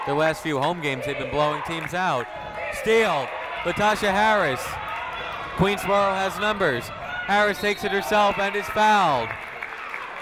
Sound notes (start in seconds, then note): 7.5 whistle tweeting; 9.9 crowd clapping